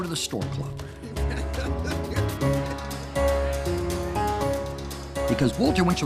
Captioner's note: laughter